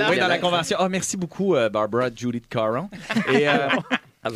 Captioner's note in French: rires